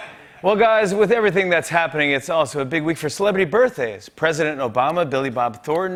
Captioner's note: none